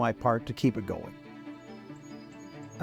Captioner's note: birds chirping